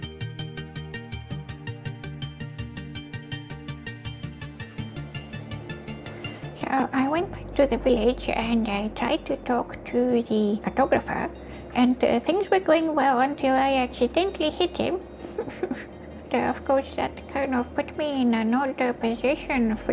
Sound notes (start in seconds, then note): 15.2 frustrated chuckle